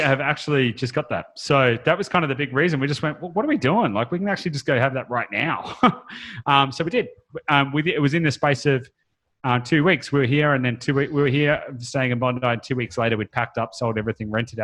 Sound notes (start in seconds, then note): 5.5 laughs